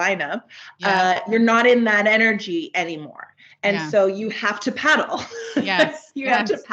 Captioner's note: giggles